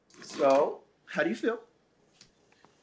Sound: none

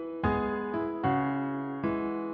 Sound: none

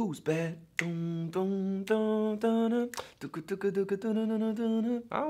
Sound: humming melody

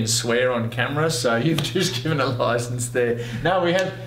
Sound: laughs

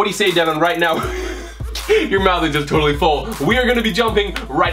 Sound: laughs

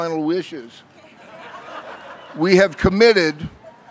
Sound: laughing

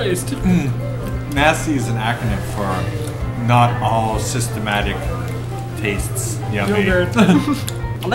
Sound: laughs

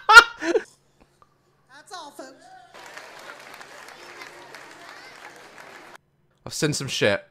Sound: audience cheers

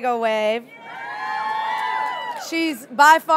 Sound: audience cheering

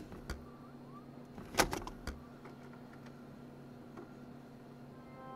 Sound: cassette whirring; festive music

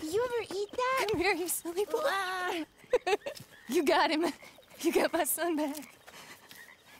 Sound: crying and embracing Jack

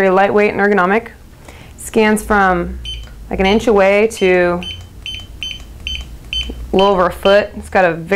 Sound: beeping and clicking

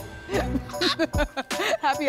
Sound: laugh

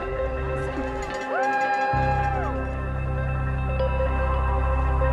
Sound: crowd cheers

